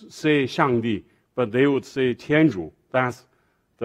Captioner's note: speaking foreign language